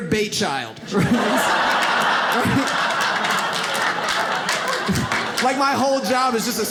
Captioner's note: audience laughs